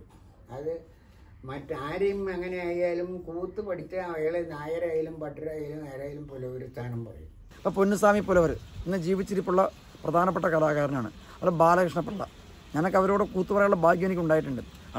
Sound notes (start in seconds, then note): none